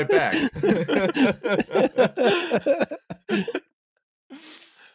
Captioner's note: laughter